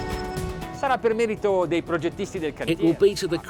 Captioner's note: electronic music; speaking foreign language